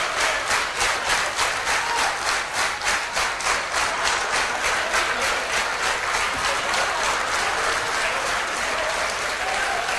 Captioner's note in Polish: Aplauz